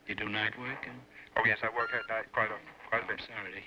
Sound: on phone

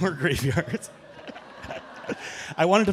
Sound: audience chuckling

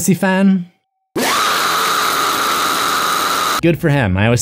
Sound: scream

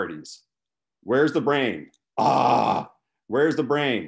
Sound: aaaaaaaaaaaaaaah

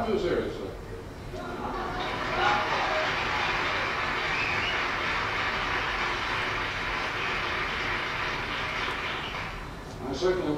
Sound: audience laughter, applause

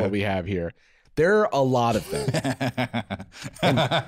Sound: laughing

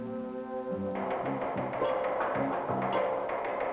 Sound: typewriter keys

